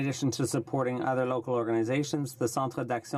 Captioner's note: speaking French